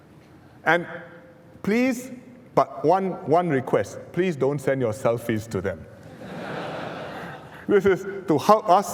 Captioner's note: laughter